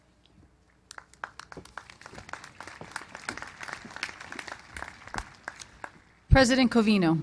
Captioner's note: applause